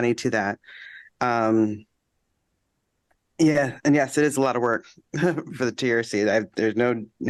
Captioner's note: laughter